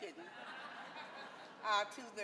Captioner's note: audience laughing